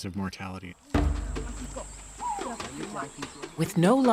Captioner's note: speaking local language